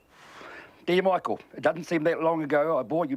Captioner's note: exhales